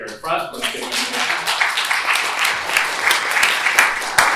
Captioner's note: applause